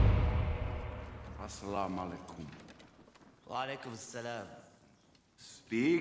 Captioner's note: both speaking in arabic